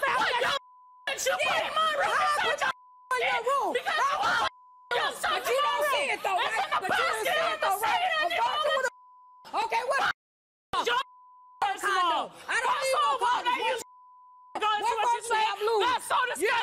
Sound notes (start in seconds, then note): 3.2 screaming; 3.8 beeping